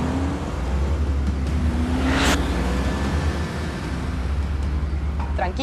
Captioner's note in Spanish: Sonido de motores